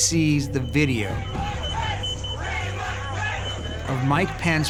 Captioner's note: crowd chanting